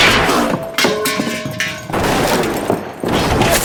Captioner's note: gunshots